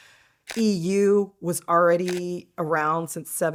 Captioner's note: shutter snaps